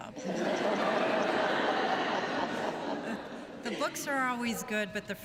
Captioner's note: laughter